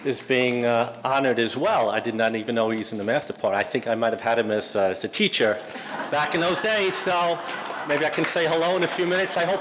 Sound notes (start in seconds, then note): 5.6 audience laughing